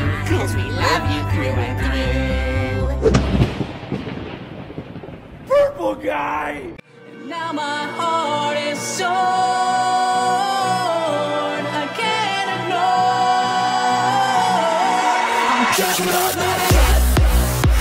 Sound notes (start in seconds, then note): 3.1 lightning strikes